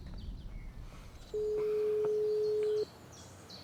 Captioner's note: phone rings on the other side